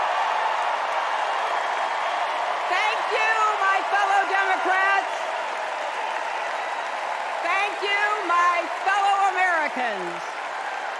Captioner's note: cheers and applause